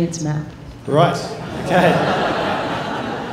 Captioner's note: laughter